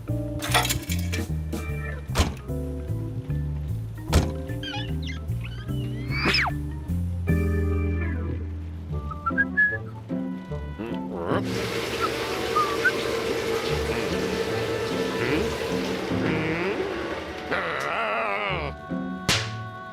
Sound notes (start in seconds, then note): 9.0 whistling; 12.4 whistling; 17.3 growls